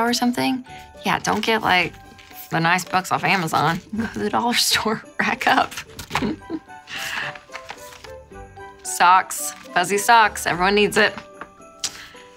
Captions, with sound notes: or something. Yeah, don't get like the nice books off Amazon. Go to the dollar store, rack up (giggles). Socks, fuzzy socks, everyone needs it.